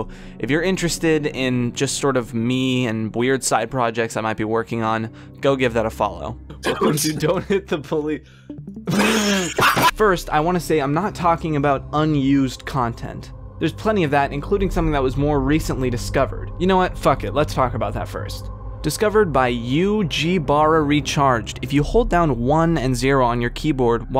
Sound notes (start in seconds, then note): 9.0 wheezing laughter